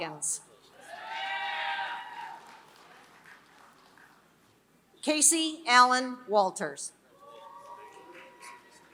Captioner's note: applause